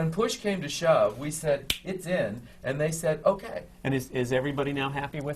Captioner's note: snaps his fingers